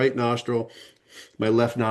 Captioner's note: sniffing